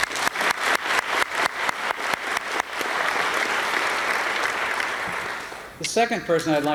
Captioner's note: applause